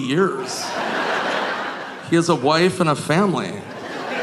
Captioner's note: audience laughing